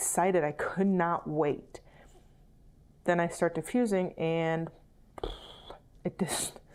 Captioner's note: blows raspberry